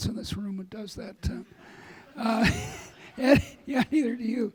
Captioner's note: audience laughing